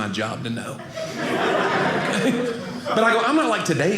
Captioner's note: audience laughing